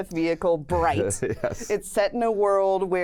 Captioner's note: laughs